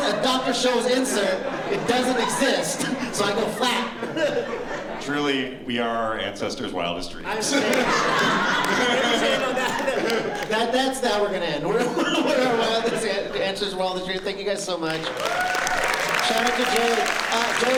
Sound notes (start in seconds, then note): 7.2 laughter; 14.8 applause